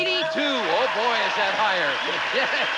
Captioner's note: audience applauding